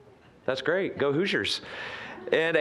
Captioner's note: scattered chuckling